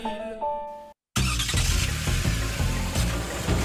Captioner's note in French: Moteur de voiture